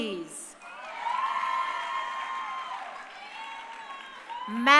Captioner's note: crowd cheering